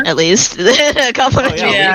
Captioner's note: laughing